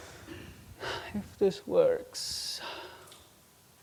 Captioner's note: sighs